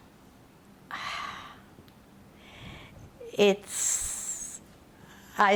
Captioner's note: sighing